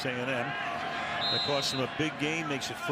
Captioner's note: whistle blowing